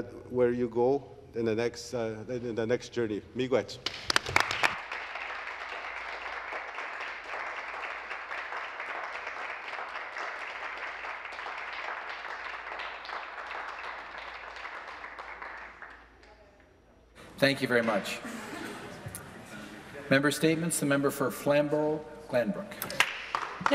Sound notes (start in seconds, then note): 7.1 applause